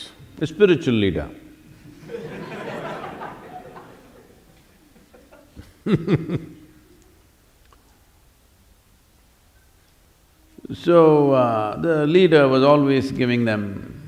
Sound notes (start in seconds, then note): 6.0 laughter; 11.8 laughs